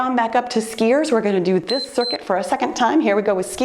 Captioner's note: timer beeps